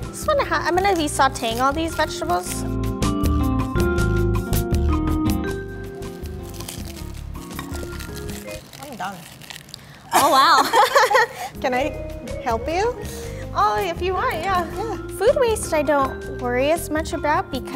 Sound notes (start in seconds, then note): 1.7 elevator music; 10.1 laughing